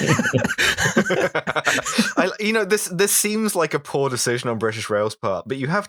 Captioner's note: laughter